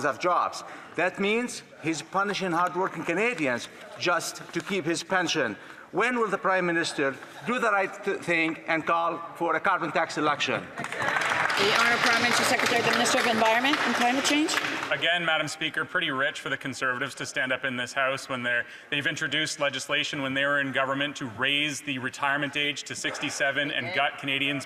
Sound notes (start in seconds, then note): 15.4 some Applause